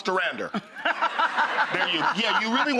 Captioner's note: Rachael and crowd laughing